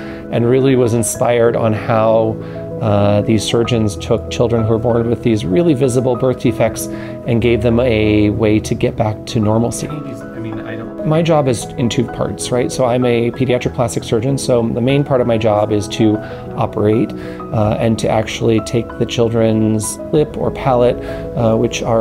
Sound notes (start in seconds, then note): 9.9 background talking